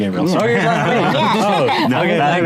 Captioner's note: laughs